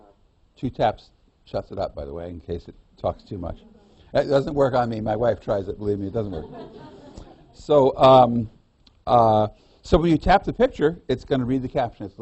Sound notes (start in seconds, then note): 6.2 laughter